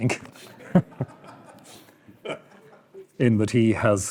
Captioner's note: audience laughing